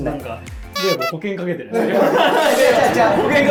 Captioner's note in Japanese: 一同・スタッフ：笑い